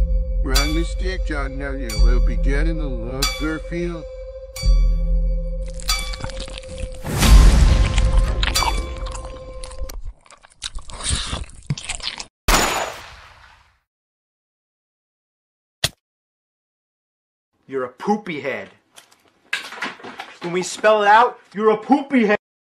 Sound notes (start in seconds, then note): 5.6 eating Sound.MP3; 12.5 gun Shot!!; 15.8 smack